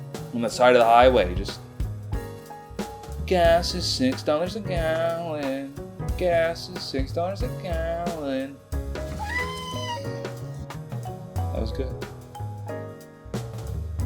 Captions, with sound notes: on the side of the highway. Just. Gas is $6 a gallon gas is $6 a gallon. *cat meows* That was good.